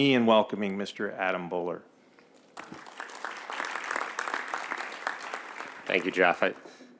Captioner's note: applause